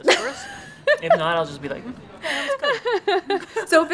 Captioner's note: laughs